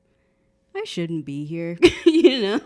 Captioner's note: laughing